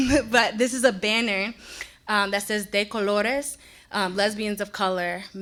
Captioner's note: speaks in foreign language